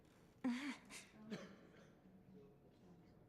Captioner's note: cough